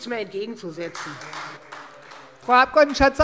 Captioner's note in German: Beifall Freie Demokraten